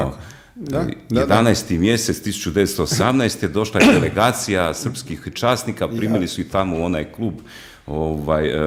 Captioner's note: coughs